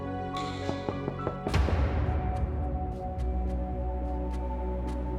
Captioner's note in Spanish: Toques en la puerta